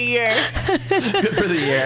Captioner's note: laughs